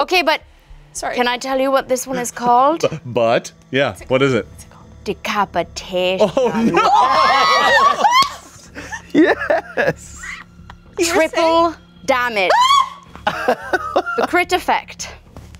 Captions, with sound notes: - Okay but, can I tell you what this one is called? - But, yeah what is it? - Decapitation. (all shouting) - Yes! - Triple damage. A crit effect.